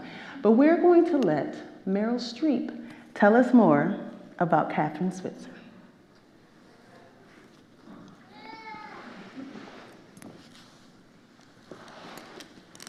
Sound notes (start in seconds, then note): 5.7 indistinct audience chatter; 8.3 baby cries